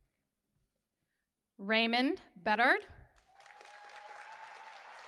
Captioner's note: cheers